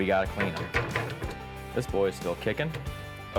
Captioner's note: cutting board clunking